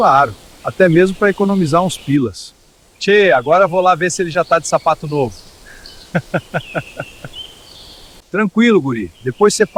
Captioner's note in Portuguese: risos